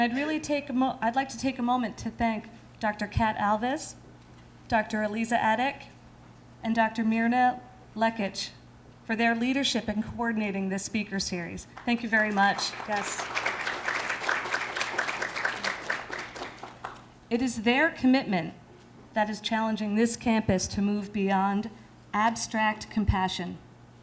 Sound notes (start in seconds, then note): 11.7 applause